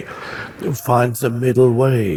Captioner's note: audience laughing